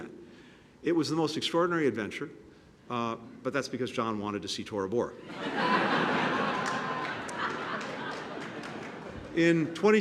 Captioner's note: laughter